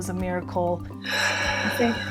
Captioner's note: exhales